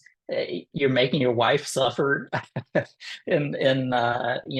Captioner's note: laughter